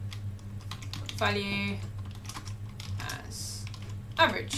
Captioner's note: keyboard clicking